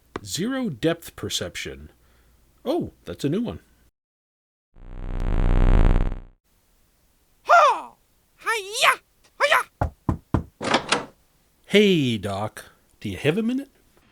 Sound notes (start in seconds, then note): 9.7 knocking